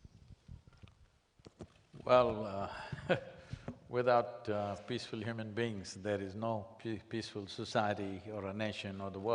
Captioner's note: laughs